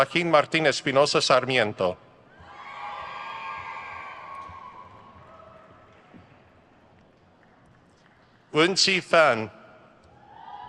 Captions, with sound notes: Joaquín Martín Espinosa Sarmiento. (crowd cheers) Wenqi Fan.